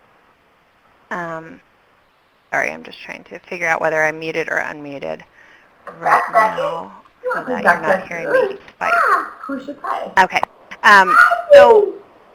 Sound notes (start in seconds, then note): 7.3 videos playing in background